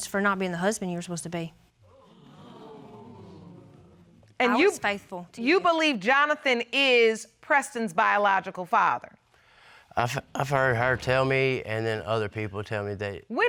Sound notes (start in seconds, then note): 1.9 audience exclaiming